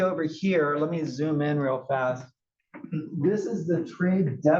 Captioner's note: cough